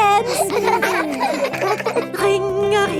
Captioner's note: giggling